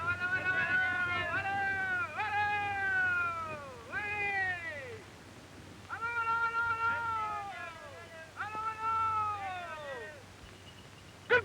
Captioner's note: men yelling at birds